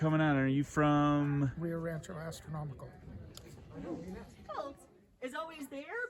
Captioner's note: indistinct chatter